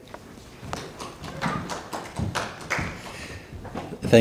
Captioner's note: audience applauding